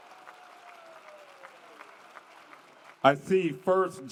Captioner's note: applause